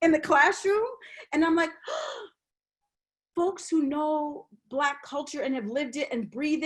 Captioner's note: gasps